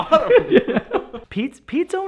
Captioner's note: laughs